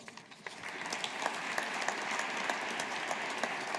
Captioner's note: audience applauding